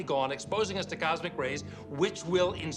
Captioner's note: none